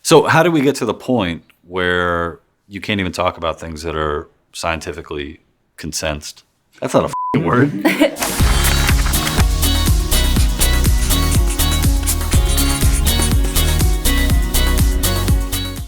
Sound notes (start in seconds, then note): 7.5 laughter; 8.2 intro music